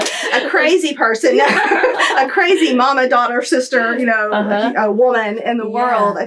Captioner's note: laughter